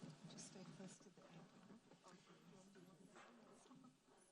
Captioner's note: ladies whispering